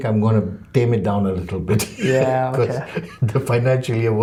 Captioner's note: laughs